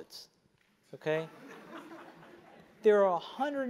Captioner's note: laugh